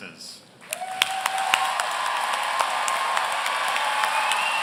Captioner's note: audience cheering